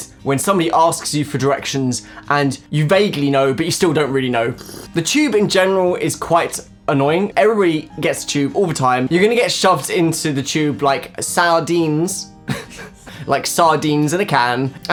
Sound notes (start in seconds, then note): 4.4 slurping; 11.7 said weirdly; 12.5 laughing